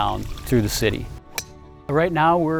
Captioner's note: golf ball hit